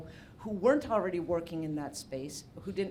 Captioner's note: none